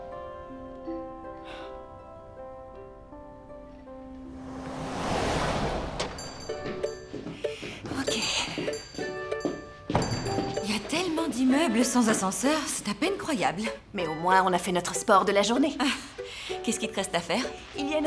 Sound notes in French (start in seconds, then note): 0.0 musique douce; 5.5 sonnerie de la porte